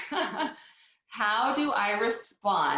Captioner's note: laughs